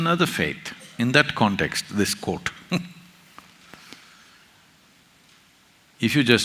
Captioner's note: laughs